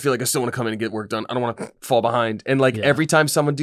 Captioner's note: snorts